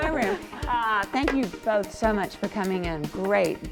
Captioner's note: laughing